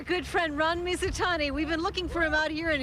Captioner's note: boat engine running